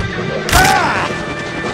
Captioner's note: crunch